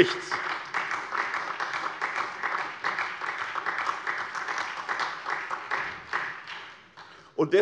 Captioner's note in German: Beifall SPD